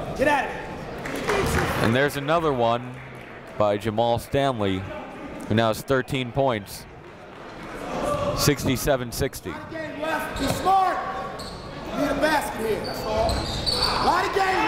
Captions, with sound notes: And there's another one by Jamail Stanley who now has 13 points. 67-60. (coach yelling)